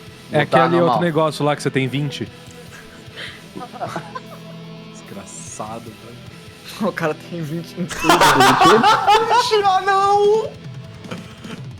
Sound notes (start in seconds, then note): 1.8 laugh; 5.2 laughs; 7.8 laugh